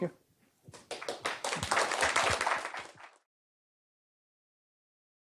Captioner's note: applause